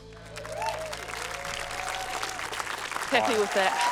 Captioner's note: cheering, applause